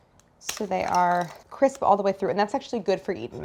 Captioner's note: meringue crunches